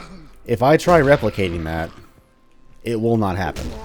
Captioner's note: whack